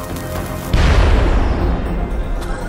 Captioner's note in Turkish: Patlama sesi